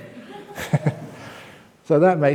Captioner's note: chuckle